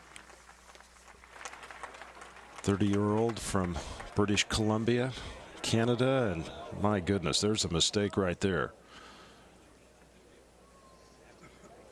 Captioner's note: applause